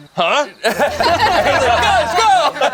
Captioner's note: group laughs